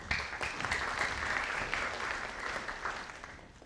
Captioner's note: audience applauding